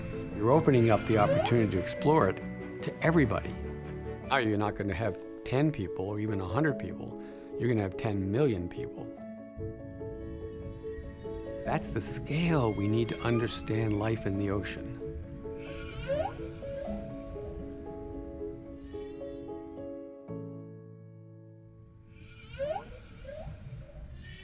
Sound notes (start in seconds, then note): 0.0 whale squeaking; 9.3 gentle music; 15.4 whale chirps; 18.6 whale bellows faintly; 22.1 whale chirps